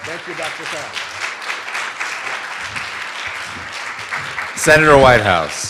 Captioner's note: applause